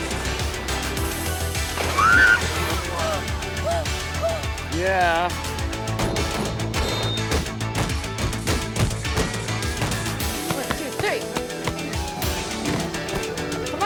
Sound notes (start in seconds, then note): 1.8 squeals; 6.3 dramatic music; 11.7 dramatic music